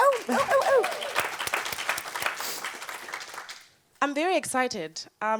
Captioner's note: audience cheers and applauds